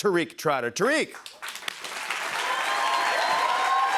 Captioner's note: cheers and applause